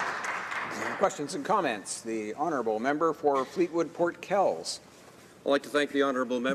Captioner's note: applause